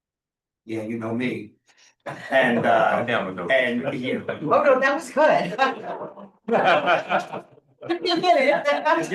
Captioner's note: laughs